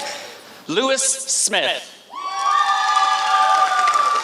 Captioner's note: applause